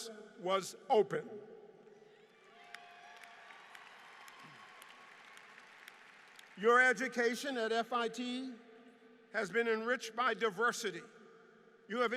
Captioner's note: applause